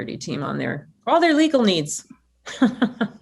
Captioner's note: laughs